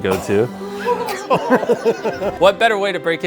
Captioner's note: family laughing, exclaiming